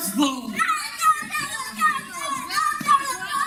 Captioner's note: children's cheering resumes